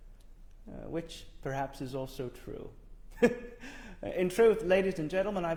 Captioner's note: laughs